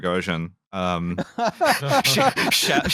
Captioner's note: laughter